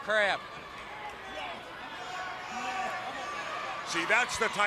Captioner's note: crowd chatter